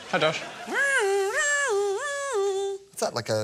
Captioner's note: mimics alarm